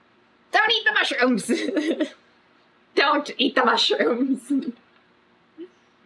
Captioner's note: laughs